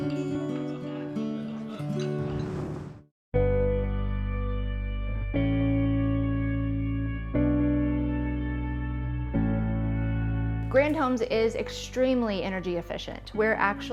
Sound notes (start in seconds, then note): 0.1 whoosh